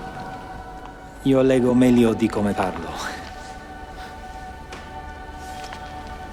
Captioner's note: speaking foreign language